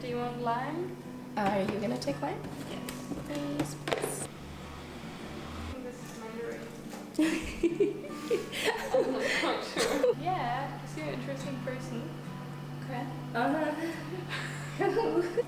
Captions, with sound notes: Do you want lime? Are you going to take lime? yes Yes please I think this is mandarine *chuckle* Im not sure Yeeea cos you're an interesting person k..uh-huh *chuckles* *chuckles*